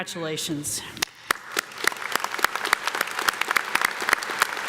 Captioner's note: audience claps